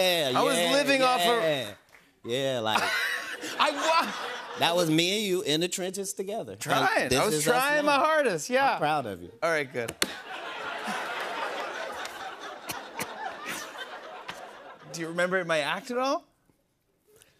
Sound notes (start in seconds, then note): 10.0 laughter